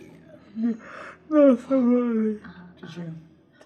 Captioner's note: yawning